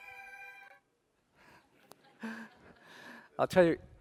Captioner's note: laughter